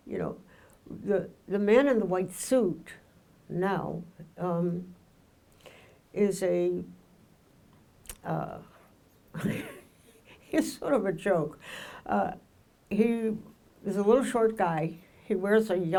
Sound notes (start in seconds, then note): 9.4 laughs